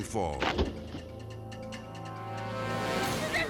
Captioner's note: suspenseful music; thudding